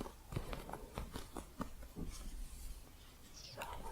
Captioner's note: soft scratching